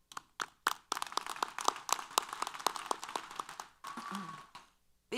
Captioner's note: applause